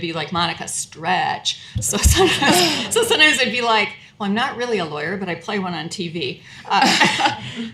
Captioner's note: laughter